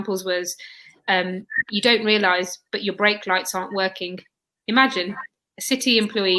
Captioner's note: erm